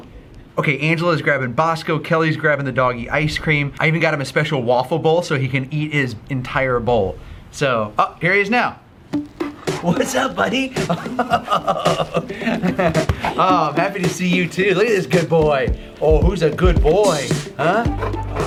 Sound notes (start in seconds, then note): 9.1 upbeat music; 11.3 laughing